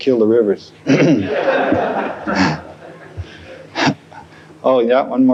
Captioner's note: laughter